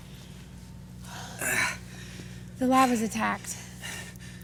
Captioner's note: Malcolm groans